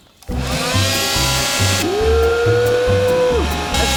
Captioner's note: air blowing